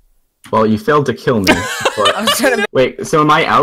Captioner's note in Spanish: Risas